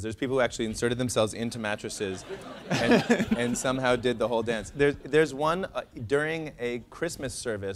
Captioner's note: laughter